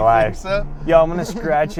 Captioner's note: laughing